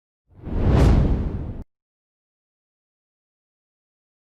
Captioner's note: air whooshing